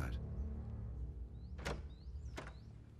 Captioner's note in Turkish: Müzik - Gerilim; Kapı açılma sesi